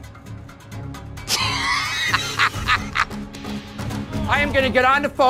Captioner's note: laughs